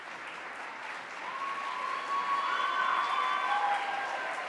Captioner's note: cheering